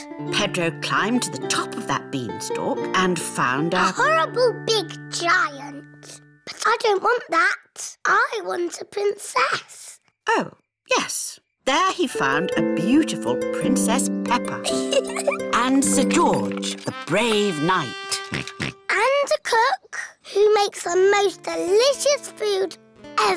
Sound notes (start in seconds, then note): 14.6 chuckles; 18.2 oinks